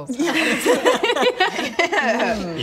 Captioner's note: desperate laughter